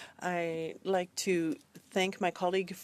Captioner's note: speaking in French